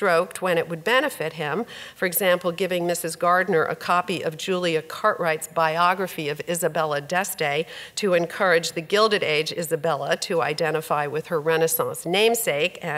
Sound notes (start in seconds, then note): none